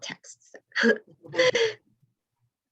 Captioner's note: laughter